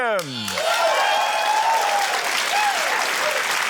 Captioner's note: cheering, applause